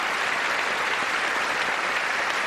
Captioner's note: applause